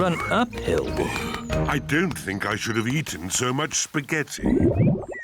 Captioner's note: groans; tummy rumbles